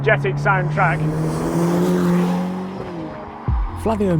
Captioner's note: car engine revving